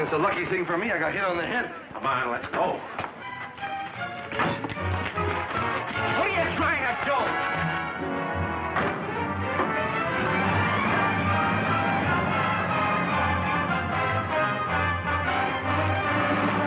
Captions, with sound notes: It's a lucky thing forme I got hit on the head. Come on, let's go! (tense music) What are ya trying to do? (engine revving)